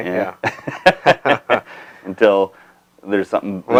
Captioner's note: laughing